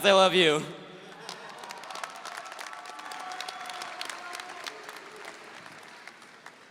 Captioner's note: audience applauding; audience cheering